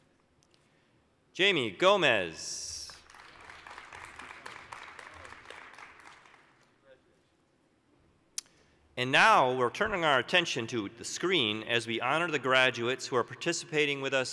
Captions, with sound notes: Jamie Gomez. (applause) And now, we're turning our attention to the screen, as we honor the graduates who are participating with us